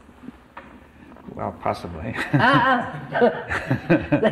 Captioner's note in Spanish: Risas